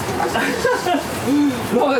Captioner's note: laughs